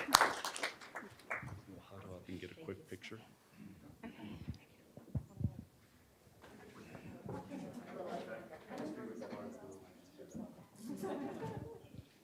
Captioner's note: applause